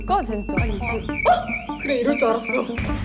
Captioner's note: beep beep beep beep beep